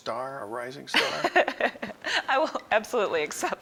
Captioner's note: laughs